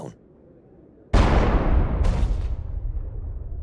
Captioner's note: bang